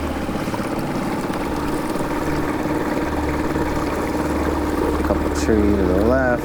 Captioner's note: motor puttering; water splashing